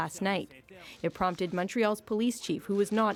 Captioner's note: speaking French